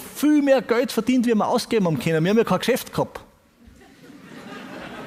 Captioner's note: audience laughs